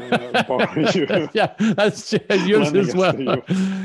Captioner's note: laughs